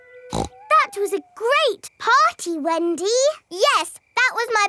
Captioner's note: snorts